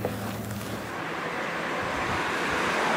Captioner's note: traffic noise